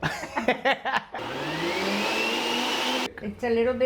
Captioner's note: both laughing; blender whirs